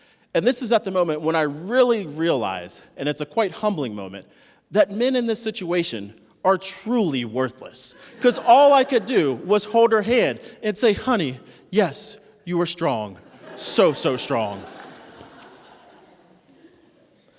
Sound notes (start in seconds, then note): 15.0 laughter